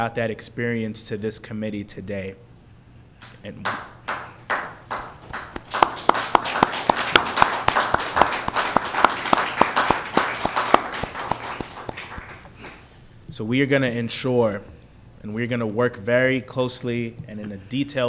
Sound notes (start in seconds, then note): 6.7 applause